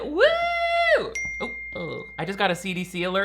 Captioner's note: phone dings